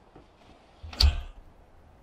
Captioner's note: door slams